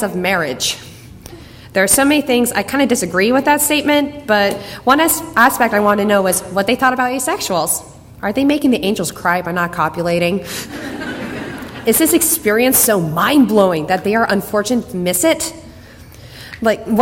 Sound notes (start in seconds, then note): 10.6 laughs; 10.6 audience laughter